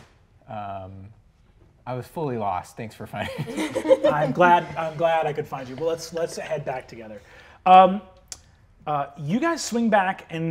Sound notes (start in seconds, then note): 3.2 players laughing; 3.3 laughs